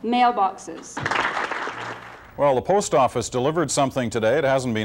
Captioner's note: applause